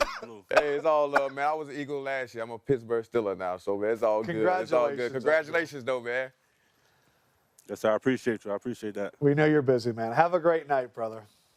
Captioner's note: laughter